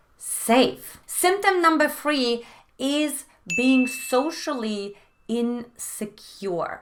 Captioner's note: beep